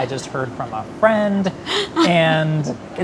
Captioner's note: laughter